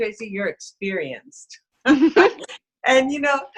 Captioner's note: they laugh